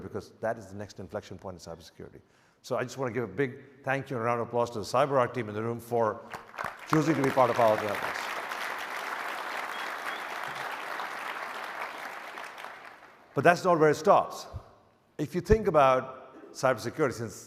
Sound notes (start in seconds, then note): 8.2 audience applauds